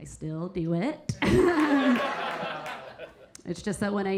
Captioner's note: Keira chuckling; audience laughing